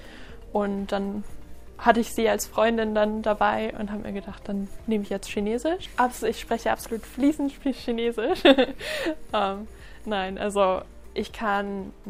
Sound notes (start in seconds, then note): 8.4 laughs